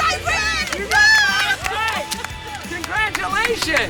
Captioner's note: cheering